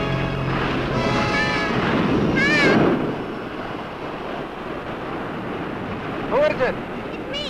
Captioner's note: waves roaring